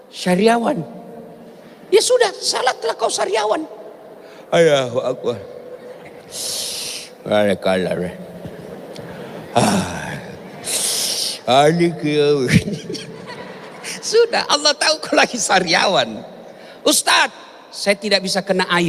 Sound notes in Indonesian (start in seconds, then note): 12.4 tertawa